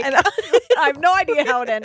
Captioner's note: laughing